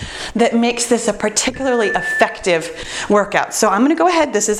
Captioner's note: timer beeps